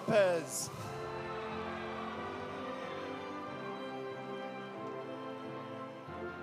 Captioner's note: audience cheering; audience applauding